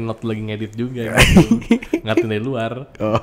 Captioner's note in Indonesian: ketawa